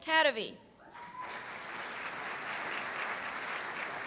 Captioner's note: applause